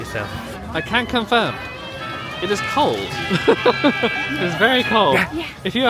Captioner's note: laughing